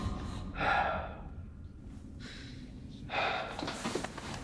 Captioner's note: Adam sighing